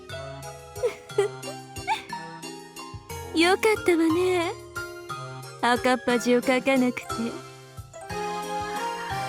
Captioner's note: giggle giggle